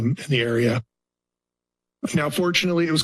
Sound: pause

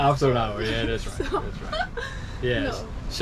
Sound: laughing

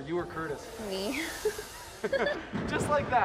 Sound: laughs

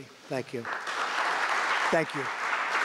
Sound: applause

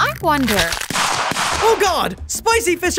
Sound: gunshots

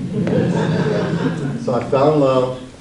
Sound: audience laughs

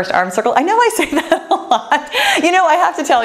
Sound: laughs joyfully

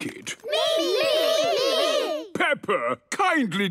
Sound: calling out in turn

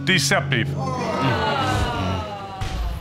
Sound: audience groans

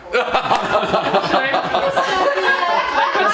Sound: laughter

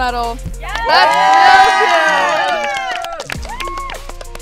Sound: everyone cheering

